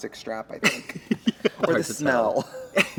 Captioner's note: Katya laughs